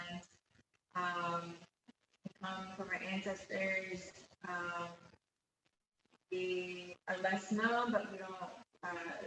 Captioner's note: interference on sound